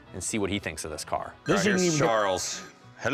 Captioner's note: phone ringing